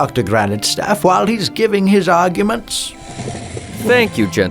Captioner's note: step stool sliding